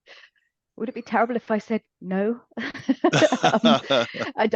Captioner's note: laughs